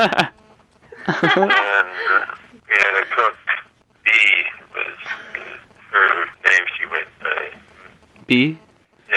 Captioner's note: laughter